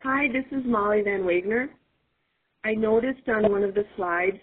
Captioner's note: voiceover